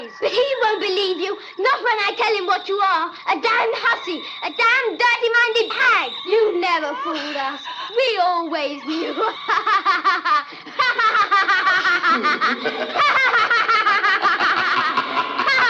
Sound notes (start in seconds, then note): 10.1 laughs